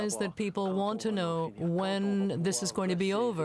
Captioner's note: speaking french